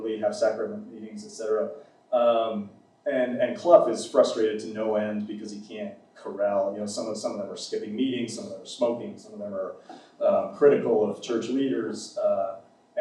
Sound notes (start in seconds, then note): none